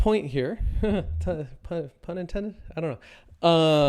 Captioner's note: chuckles